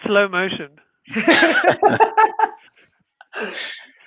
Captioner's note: laughing